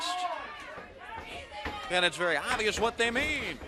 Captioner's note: crowd chatter